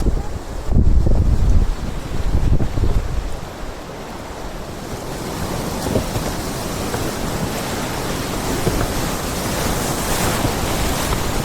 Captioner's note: wind blowing